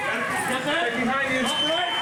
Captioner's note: officers yelling